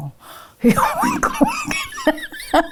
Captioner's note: laughs